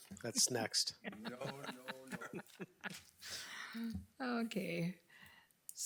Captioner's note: group laughs